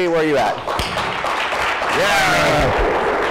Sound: audience clapping

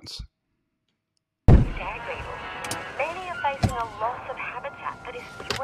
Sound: radio advertisement playing

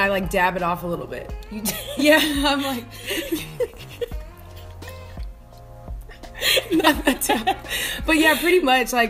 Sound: laughter

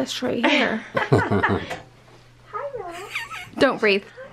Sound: laughing

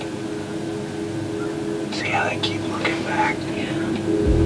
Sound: whispering

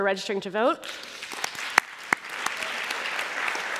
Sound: applause

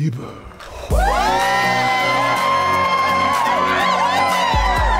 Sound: audience cheering

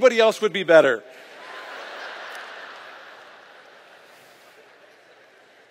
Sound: laughter

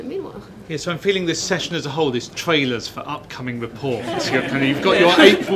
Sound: laughter

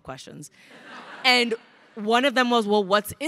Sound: crowd laughing

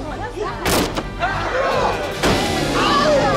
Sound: yelling

